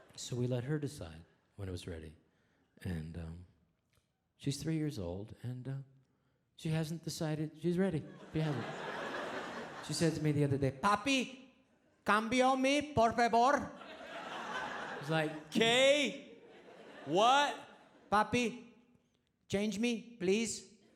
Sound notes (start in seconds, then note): 8.1 audience laughs; 12.9 speaks foreign language; 13.7 audience laughs